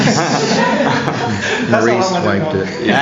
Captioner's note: laughter